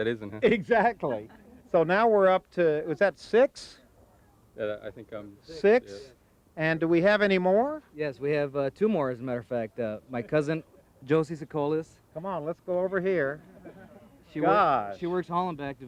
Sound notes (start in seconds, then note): 2.6 laughing